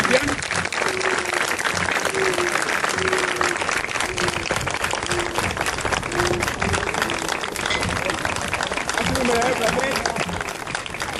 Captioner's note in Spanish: aplausos